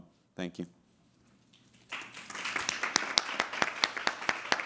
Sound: everybody clapping

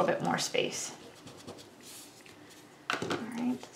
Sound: rubber scrubbing

